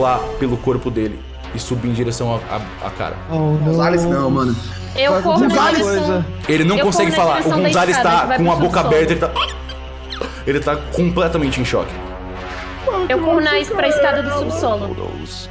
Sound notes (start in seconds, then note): 8.2 panicking noises